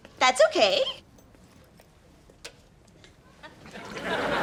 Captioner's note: laughs